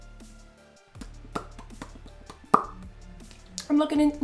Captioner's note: lip smacking